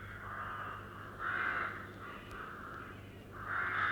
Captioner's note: crows caw